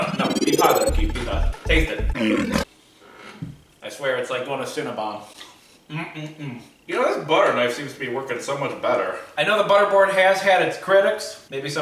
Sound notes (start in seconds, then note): 2.0 lion roaring